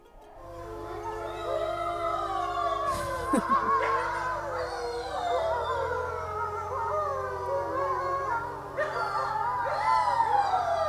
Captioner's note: wolves howling